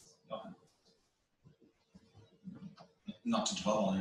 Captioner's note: pause